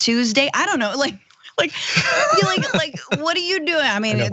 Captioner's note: laugh